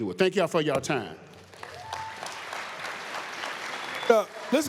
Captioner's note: applause, cheers